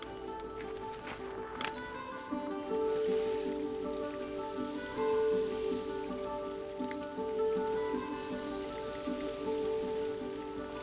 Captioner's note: water sounds